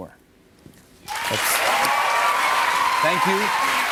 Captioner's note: cheers and applause